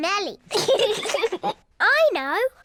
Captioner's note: both laugh